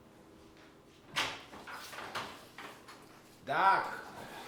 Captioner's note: door clatters open